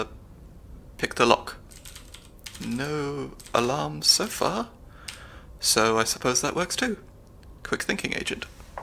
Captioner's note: typing sounds